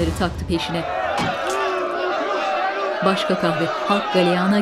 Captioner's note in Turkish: Bağrışmalar